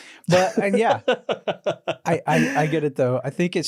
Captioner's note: laughing